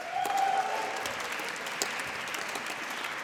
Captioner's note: applause